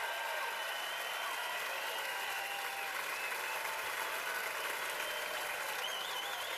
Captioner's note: cheers and applause